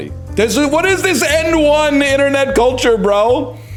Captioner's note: shouts